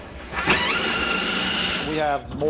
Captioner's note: drilling